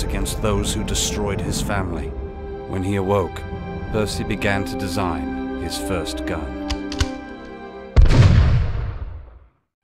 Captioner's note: gunshot